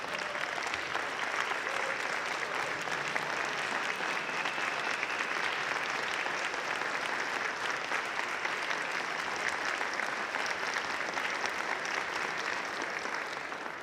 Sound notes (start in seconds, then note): 10.1 applause